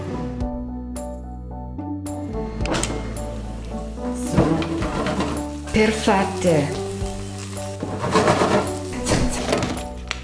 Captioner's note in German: spricht Italienisch